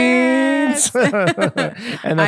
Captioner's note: both laughing